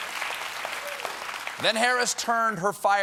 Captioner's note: applause